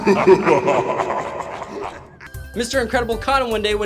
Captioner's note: evli laugh